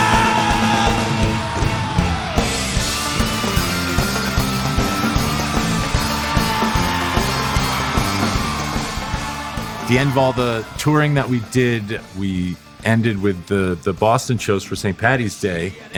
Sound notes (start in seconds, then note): 9.7 crowd cheering; 9.7 rock music playing